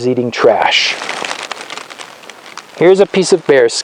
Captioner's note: leaves crunch